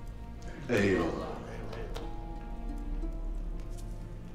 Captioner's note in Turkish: Hep bir ağızdan